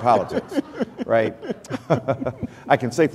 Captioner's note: laughter